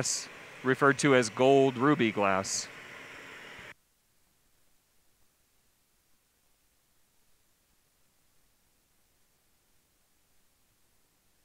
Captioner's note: silence